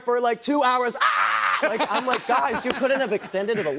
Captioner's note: screaming